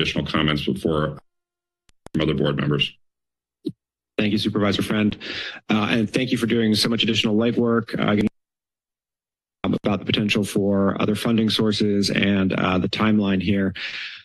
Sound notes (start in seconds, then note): 7.9 connection static